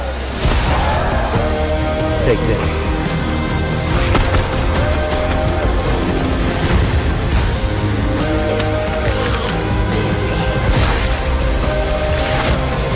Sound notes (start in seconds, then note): 4.0 gun shots; 6.5 upbeat music